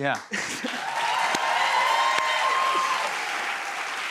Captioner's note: cheers and applause